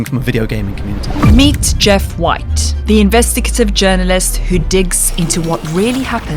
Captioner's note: voiceover